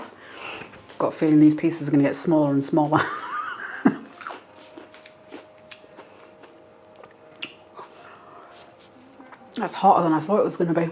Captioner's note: laugh